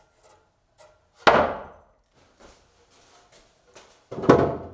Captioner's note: wood clanking